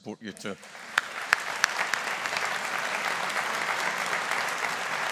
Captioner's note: audience applauding